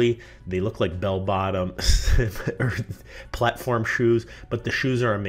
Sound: laughs

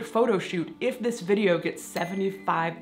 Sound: bell ringing

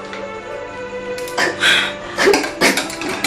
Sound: exhales

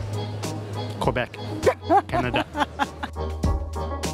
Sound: laughs

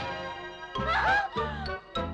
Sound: gasps

